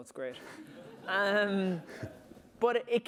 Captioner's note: laughter